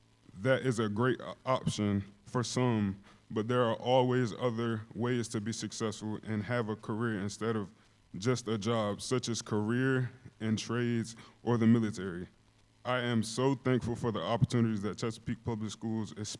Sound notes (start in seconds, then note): none